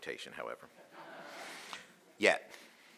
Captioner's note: audience laughing